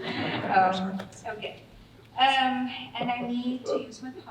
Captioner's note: audience laughing